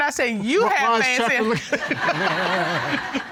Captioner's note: audience laughing